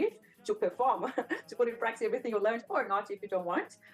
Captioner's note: laughs